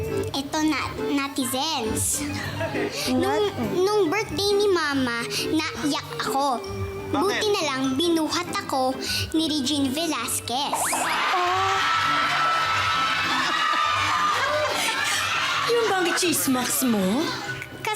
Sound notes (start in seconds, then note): 10.9 crowd laughing